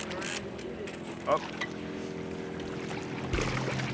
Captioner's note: reel cranking